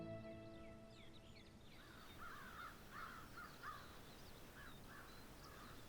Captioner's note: birds crowing